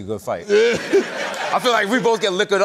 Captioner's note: laughter